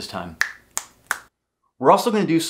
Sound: snapping

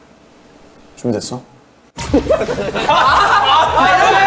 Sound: bursts out laughing

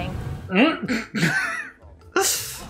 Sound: laughs

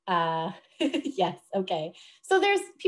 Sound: laughs

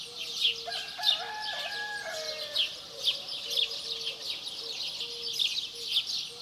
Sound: birds chirping; rooster crowing

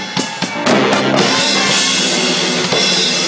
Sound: audience cheers; chaotic music

